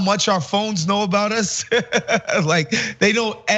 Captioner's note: laugh